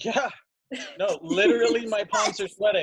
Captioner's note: women laugh